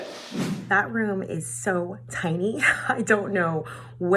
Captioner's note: laughing